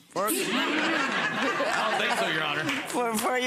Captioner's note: audience laughs